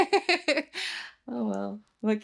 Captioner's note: laughs